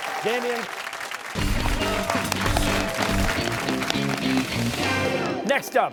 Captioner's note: cheers and applause